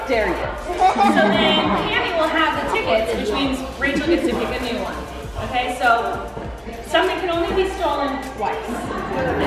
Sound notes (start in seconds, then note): 0.6 laughing